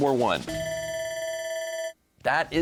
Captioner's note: bell ringing